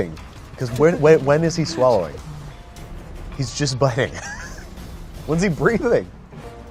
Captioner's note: laughs